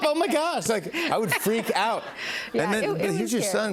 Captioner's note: laughs